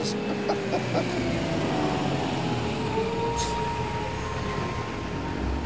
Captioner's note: engine rumbling; light music